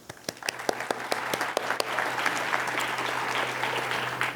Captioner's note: applause